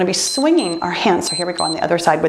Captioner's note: timer beeps